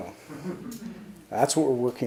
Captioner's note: audience chuckles